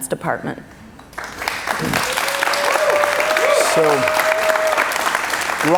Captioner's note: cheers and applause